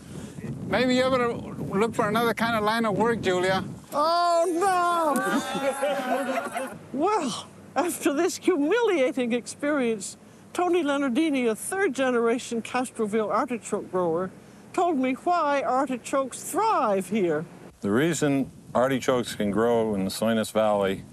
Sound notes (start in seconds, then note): 5.1 laughter